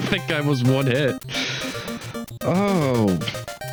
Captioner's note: sigh